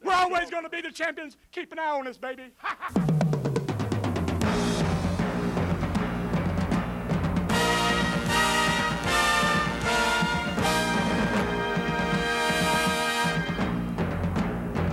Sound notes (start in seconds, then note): 2.2 laughs; 3.6 rapid drumming; 7.4 grand trumpet music